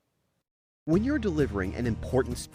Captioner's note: voice-over